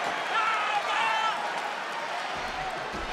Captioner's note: Dom yells